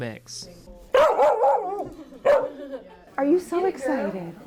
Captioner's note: dog barks